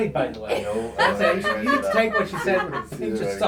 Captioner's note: laughing